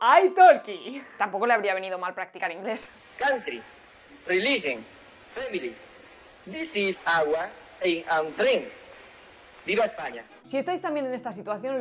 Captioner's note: scene of Franco speaking English